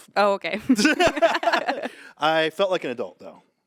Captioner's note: group laughing